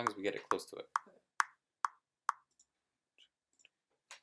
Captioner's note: metronome clicking